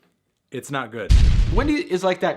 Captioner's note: explosive booms